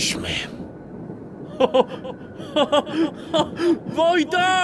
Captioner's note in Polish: śmiech Spejsona z dołu